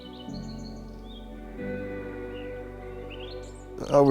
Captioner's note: birds chirping